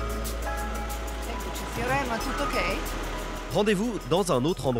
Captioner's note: speaks in Italian